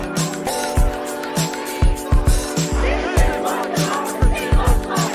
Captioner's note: indistinct chanting